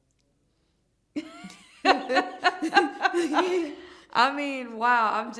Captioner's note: laughter